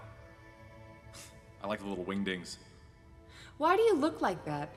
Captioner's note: snort